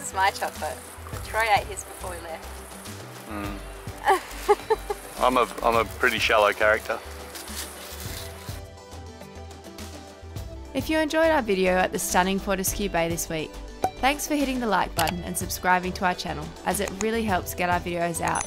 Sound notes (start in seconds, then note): 4.0 laughs